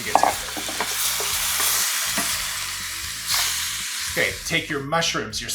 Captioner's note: pan sizzling